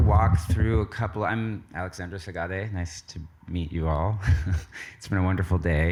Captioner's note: chuckles